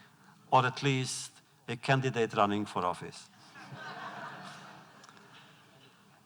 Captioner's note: laughter